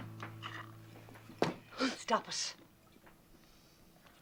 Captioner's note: Jadeos